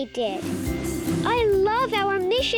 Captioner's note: air whooshing